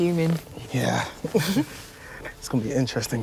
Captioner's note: Grace and Ethan chuckling